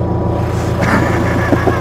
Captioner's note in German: lachen